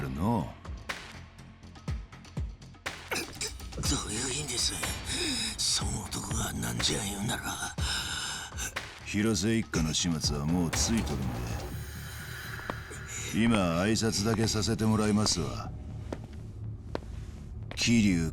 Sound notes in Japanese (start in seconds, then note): 7.4 荒い息